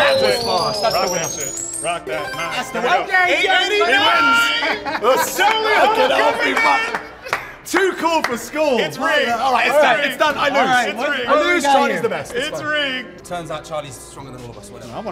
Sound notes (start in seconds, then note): 0.0 group cheers; 0.2 game ticking; 4.2 group cheers